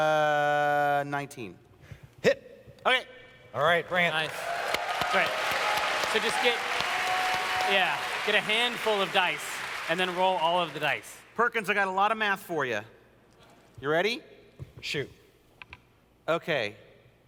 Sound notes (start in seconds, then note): 3.9 audience cheering